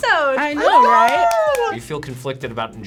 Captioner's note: cheer